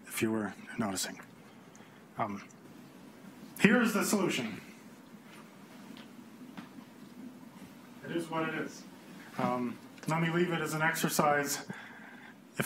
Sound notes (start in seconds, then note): none